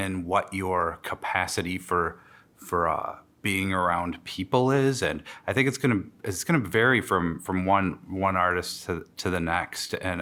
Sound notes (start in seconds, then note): none